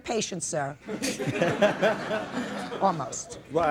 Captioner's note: people laughing